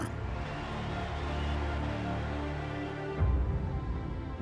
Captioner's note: crowd cheering